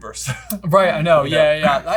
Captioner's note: laughing